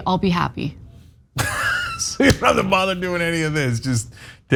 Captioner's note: laugh